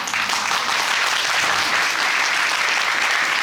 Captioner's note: applauding